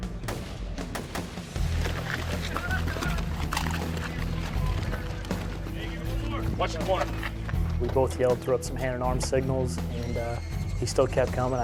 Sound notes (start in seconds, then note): 0.1 gunfire; 1.6 sound of Marines running